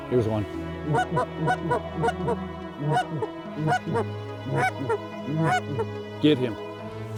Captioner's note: goose calls